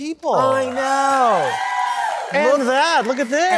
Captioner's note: audience cheering